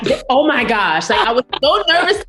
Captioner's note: laughs